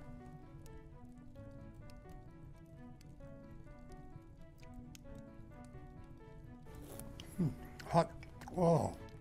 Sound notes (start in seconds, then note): 6.7 slurping